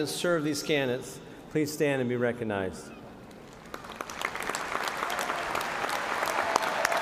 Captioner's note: cheers and applause